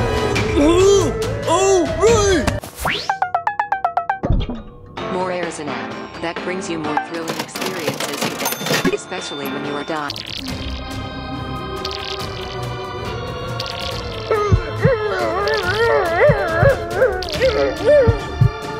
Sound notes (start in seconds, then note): 2.8 beeping; 10.2 intense music plays, as the contestants make noises, struggling to breathe